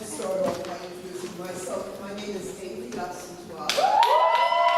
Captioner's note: applause